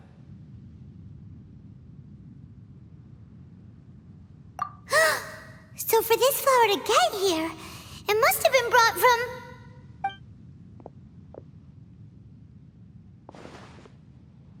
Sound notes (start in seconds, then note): 4.8 gasp